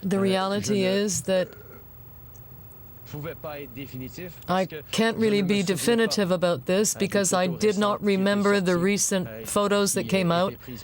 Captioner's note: speaking French